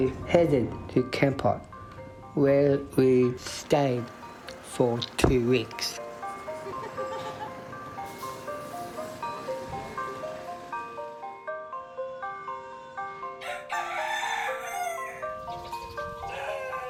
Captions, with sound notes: We headed to Kampot where we stayed for two weeks. (bells, chimes, rooster crowing)